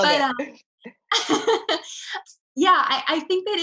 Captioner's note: laughing